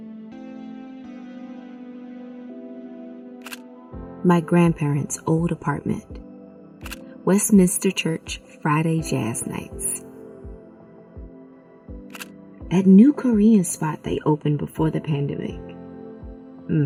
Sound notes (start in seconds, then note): 0.2 gentle music; 3.4 camera shutter clicking; 6.8 camera shutter clicking; 12.1 camera shutter clicking